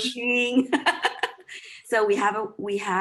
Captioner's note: all laughing